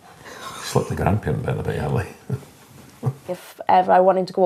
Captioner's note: he chuckles